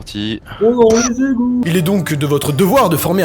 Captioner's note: laugh.mp3